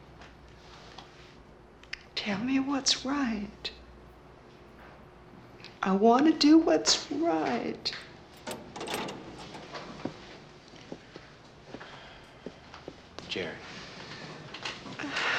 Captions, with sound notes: Tell me what's right. I wanna do what's right. (locks disengaging) - Jerry.